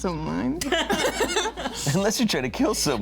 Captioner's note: all laughing